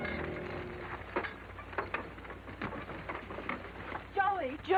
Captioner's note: reins jingling